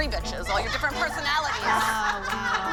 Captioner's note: laughter